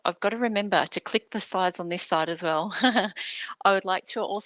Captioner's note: chuckles